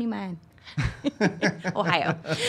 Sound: laughing

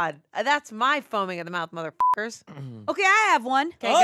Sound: beep

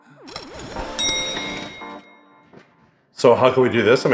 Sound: bell dings

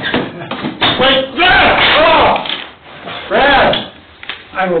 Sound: yells

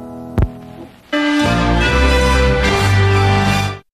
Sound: majestic chime plays

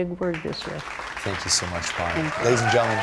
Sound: applause

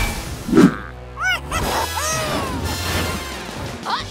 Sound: chuckling

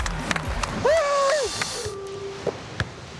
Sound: cheers

